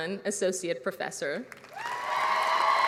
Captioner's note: applause